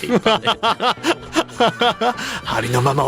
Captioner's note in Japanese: 笑い